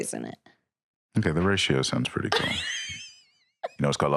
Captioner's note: laughs